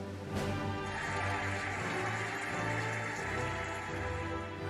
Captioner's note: cheering and applauding